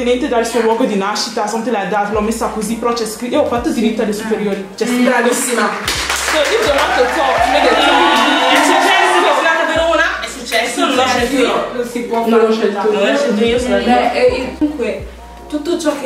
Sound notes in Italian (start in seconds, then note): 7.1 Applauso